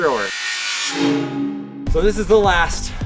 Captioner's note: buzzing